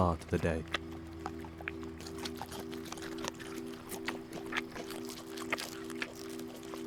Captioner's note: lips smacking; grass crunching